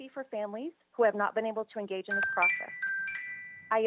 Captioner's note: chime